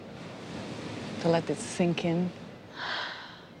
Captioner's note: sighs